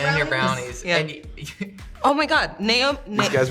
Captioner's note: Hunter chuckles